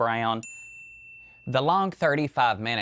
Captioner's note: bell dings